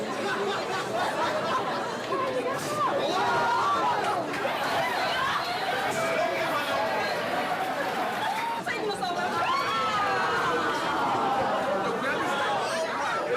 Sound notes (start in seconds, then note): 0.0 students laughing; 8.9 background chatter